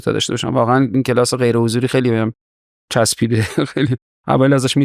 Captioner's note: laughs